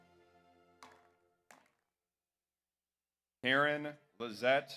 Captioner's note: audience applauds